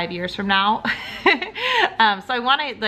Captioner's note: laughs